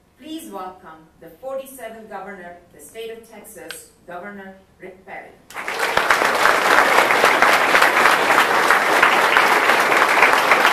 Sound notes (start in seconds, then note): 5.5 audience applauding